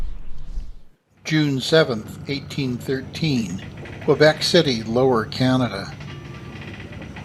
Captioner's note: creaking ship noises